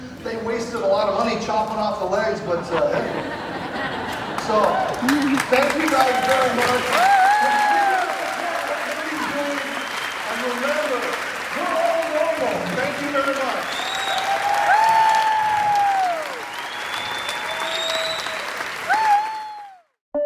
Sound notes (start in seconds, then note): 4.6 audience laughs and claps; 13.5 applause